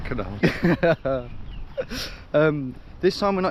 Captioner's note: laughs